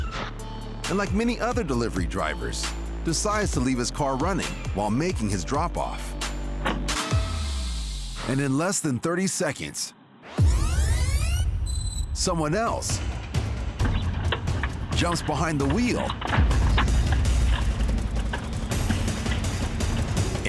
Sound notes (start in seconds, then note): 10.4 tape fast-forwards; 16.3 tense music playing